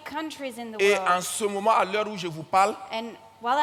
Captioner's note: continues in French